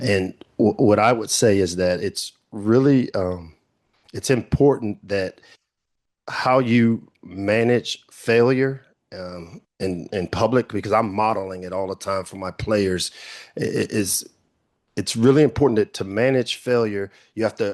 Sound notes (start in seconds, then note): none